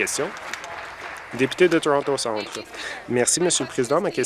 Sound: applause

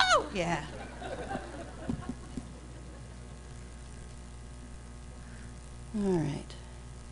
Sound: laughter

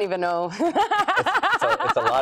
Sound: laughs

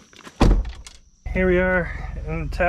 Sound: car door closing

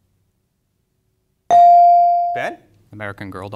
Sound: bell dings

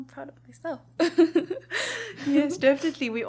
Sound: laughs

